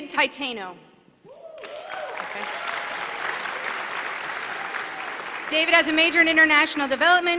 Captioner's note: applause